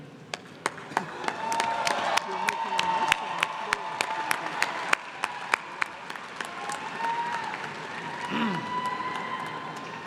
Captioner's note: applause